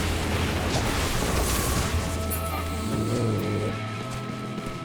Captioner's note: footsteps